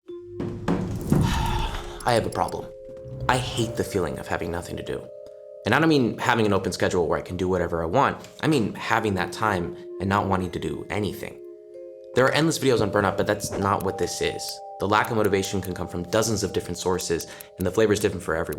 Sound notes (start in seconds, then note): 1.1 sighs